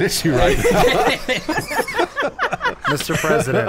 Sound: laughing

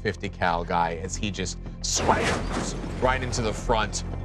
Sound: flames rumbling

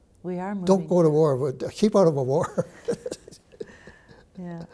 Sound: chuckles

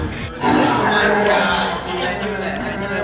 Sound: Chewbacca roar

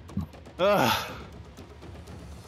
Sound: exhale

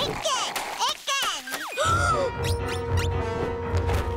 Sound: gasping

